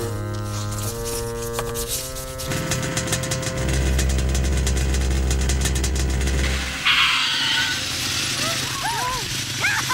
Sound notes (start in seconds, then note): 2.4 car engine sounds